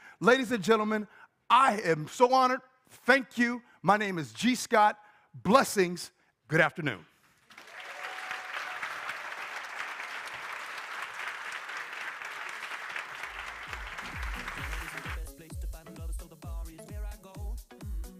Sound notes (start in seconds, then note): 7.4 crowd applauding; 12.8 upbeat music